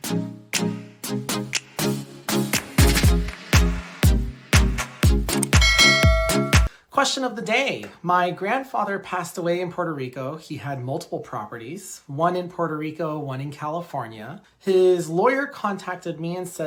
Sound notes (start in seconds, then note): 5.6 bell dings